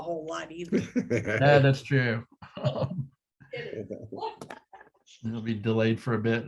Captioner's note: laugh